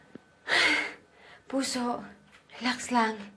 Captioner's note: sighs